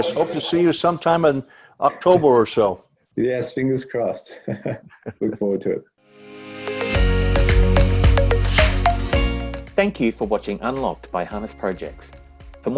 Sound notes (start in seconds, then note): 4.3 laughs; 6.2 upbeat music